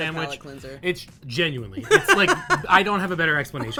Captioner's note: laughing